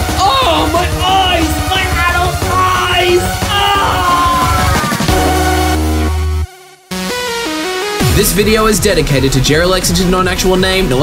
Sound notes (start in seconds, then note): 0.1 pained groan; 2.1 scream of agony